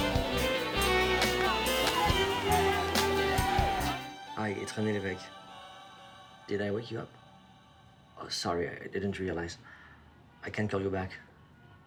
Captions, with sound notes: (speaking foreign language) Did I wake you up? Oh, sorry. I didn't realize. I can call you back.